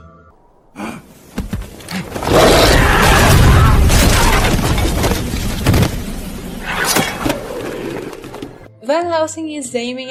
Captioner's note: werewolf noises, gasp, scream